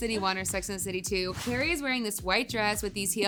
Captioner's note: air whooshing